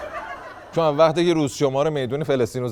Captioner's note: laughter